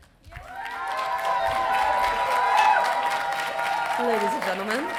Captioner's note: audience cheering